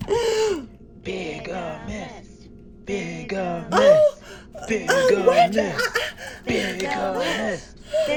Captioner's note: crowd can be heard chanting 'BIGAMIST'